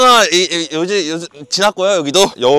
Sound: serious Speech Impediment

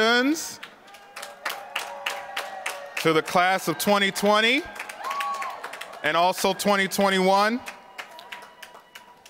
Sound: applause

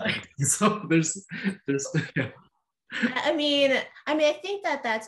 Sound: laughter

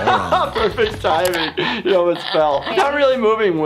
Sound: laughs

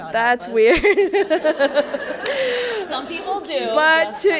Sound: laughing

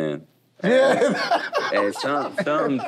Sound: laughs

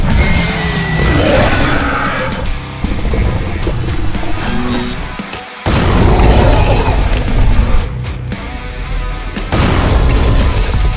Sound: attacking sounds

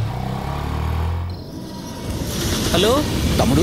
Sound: train running sound

